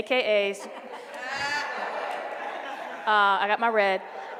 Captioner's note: laughing